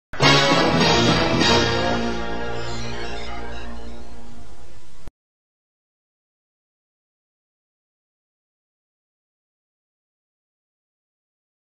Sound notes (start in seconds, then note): 0.2 creepy music plays; 5.7 silence